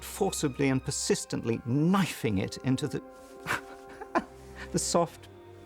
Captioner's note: laughing